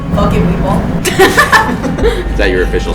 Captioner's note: laughing